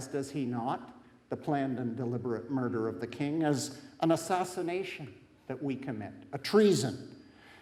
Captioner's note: none